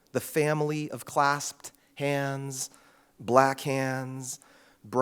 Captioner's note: none